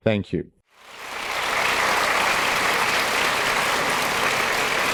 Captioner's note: audience applauding